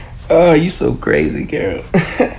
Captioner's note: chuckles